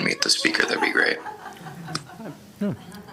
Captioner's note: laughter